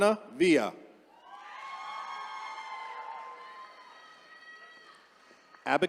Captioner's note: attendees cheering